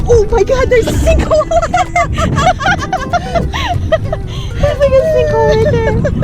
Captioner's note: laughs